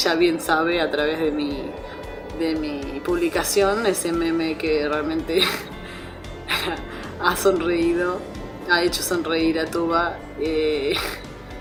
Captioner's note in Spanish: risas